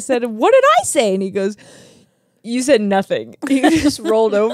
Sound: laughs

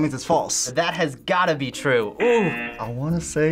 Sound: buzzer rings

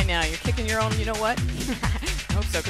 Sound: laughs

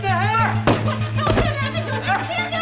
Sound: blam!

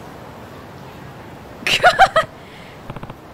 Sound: chuckles

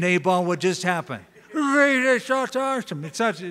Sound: slurring

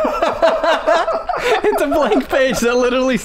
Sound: laughter

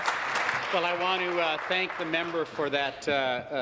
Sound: applause

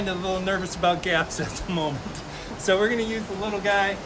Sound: chuckles

